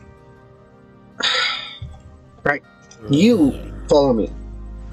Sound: sigh

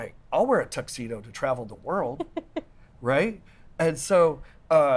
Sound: laughs

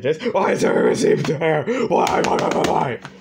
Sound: in trenton darden's voice

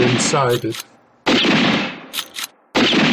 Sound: rifle shots

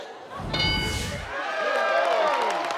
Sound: bell chiming; audience cheering and clapping

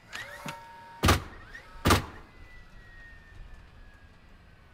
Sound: nails banging loudly

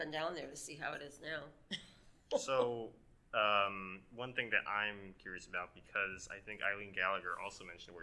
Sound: chuckles

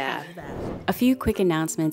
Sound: air whooshing

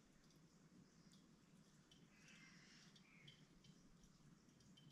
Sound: birds chirping

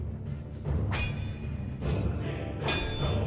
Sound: clanging continues

